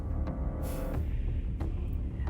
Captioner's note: exhaling